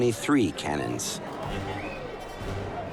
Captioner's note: shouting